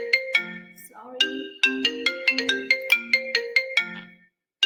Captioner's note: cellphone ringing